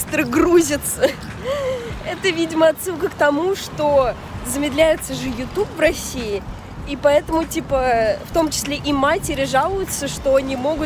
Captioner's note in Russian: вздох